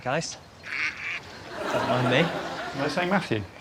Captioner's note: ducks quacking